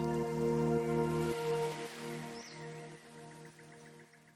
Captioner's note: water babbling; inspiring music; birds chirping